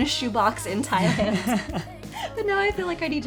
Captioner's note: laughing